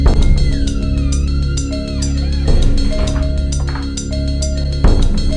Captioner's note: door squeaking